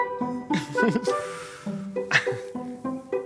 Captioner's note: playful music; laughs